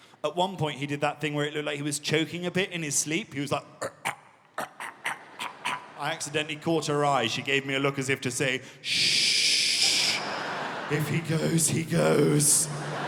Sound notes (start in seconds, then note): 3.8 choking; 9.8 audience laughing